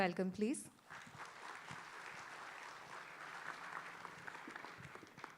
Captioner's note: applause